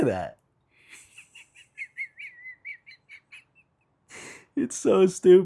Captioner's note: laughing